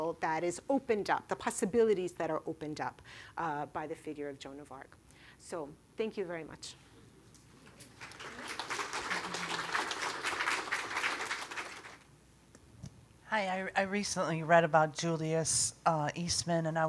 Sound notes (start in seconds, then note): 7.8 audience applauding